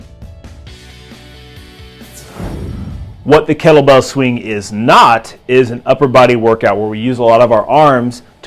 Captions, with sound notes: (upbeat rock music) (swooshing) What the kettlebell swing is not is an upper body workout where we use a lot of our arms